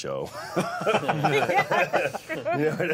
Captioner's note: all laughing